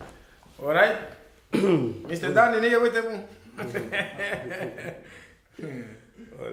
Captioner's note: laughter